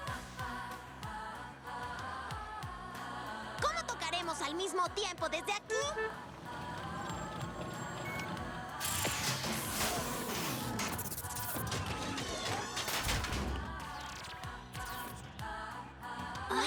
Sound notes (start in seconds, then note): 5.8 car horn toots; 8.8 metallic clatter